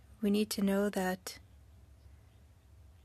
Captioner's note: speaking french